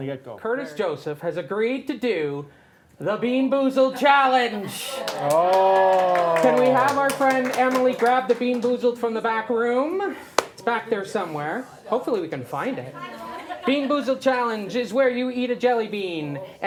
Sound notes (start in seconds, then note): 5.0 applause